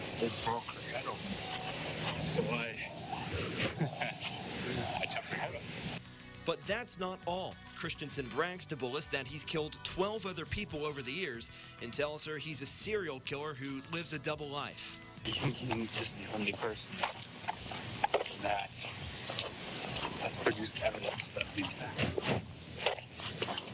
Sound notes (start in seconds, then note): 1.1 laugh